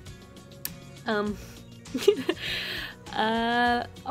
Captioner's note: laughter